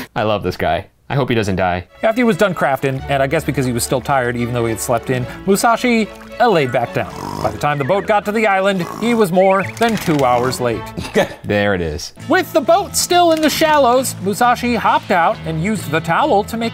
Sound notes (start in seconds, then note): 6.9 Musashi snoring